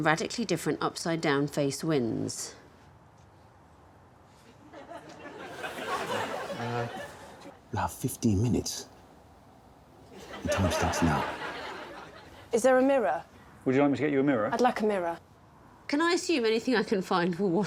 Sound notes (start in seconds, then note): 6.4 audience laughing